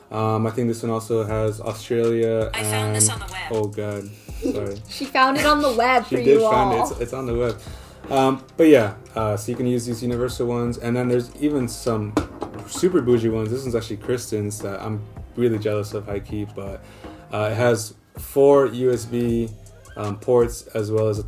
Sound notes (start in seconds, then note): 3.2 siri speaks